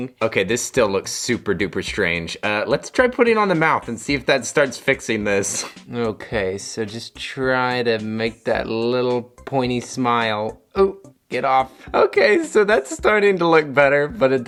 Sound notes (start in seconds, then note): 5.5 chuckles